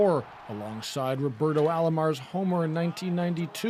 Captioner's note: cheers and Applause